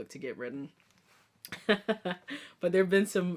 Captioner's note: chuckling